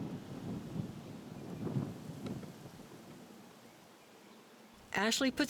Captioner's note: thunder rumbling